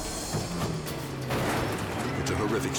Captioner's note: car crashing